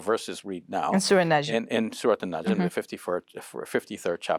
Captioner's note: speaking in foreign language